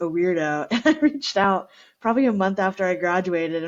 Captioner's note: laughter